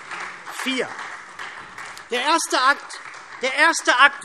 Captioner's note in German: Beifall SPD